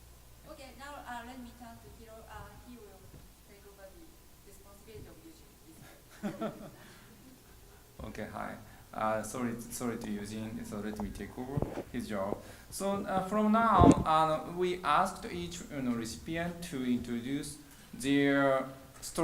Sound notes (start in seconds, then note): 5.9 chuckles